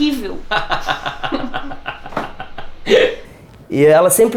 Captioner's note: laugh